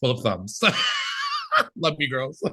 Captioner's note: laughing